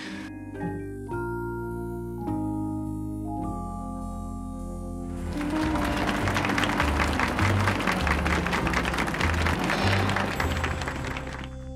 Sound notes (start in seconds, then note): 0.3 light playful music; 5.2 people clapping